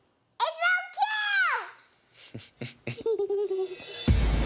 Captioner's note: laughs